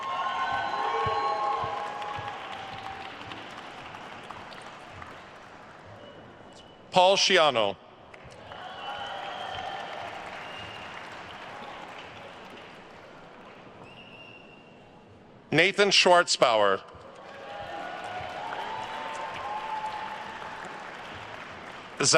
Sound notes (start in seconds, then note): 0.0 attendees cheering and applauding; 8.2 attendees cheering and applauding; 13.8 attendee whistling; 17.0 attendees cheering and applauding